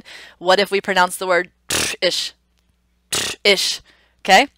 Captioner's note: blowing raspberry